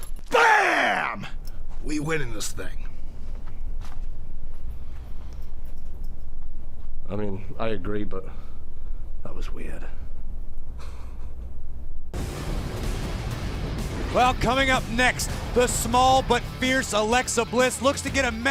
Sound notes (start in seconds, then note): 10.8 chuckles